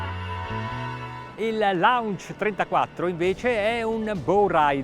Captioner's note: speaking Italian